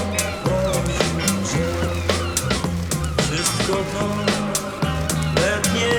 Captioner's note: seaguls mewing